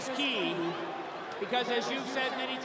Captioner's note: cheering; applause